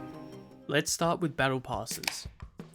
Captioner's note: cracking of can